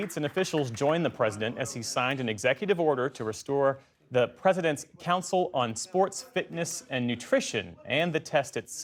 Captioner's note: applause